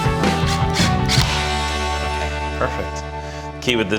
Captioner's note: drill whirring